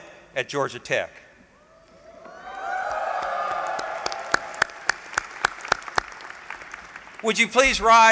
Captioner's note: applause